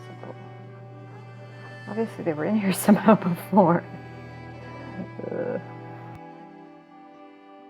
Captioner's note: laugh